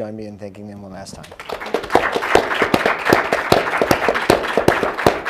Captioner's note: applause